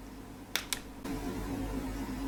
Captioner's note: snap!